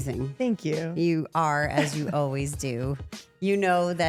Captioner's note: Rhea laughs